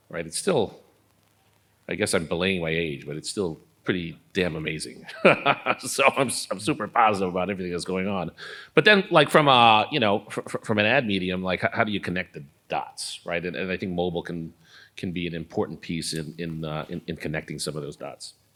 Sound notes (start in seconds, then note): 5.0 laugh